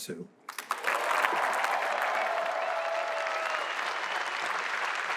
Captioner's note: applause